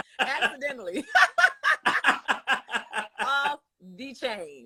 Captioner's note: both laugh